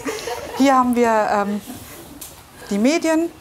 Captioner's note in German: Lachen